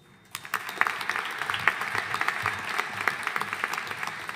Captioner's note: audience applauding